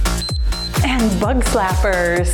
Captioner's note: timer beeps